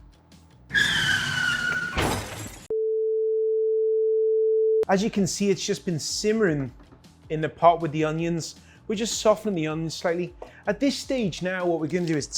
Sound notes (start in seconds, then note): 0.7 car crashing; 2.6 beep